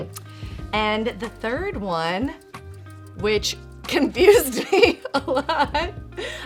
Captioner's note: laughs